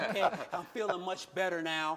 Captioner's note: laughter